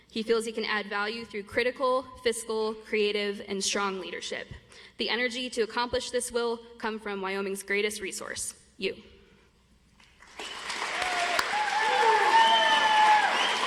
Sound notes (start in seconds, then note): 10.1 audience applauds